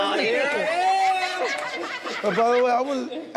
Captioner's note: group laughing